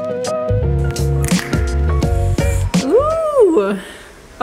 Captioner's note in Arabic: فرقعة إصبع